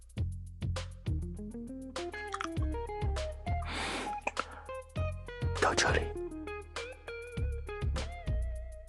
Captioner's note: MORE wet kiss noises